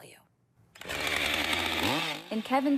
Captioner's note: chainsaw buzzes